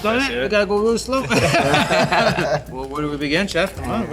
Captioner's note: everyone laughs